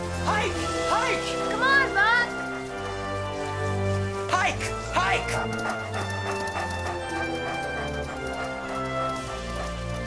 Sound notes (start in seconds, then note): 5.5 dogs panting